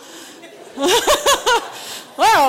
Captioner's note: laughter